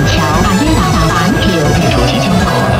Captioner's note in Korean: 광둥어